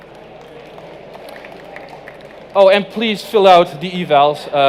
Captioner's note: applause